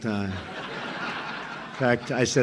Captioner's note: laughter